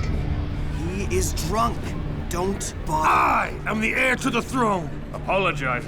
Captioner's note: groaning